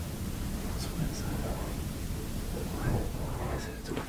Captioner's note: whispering